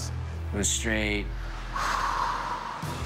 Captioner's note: sigh